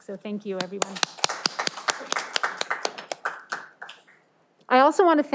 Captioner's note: audience applauding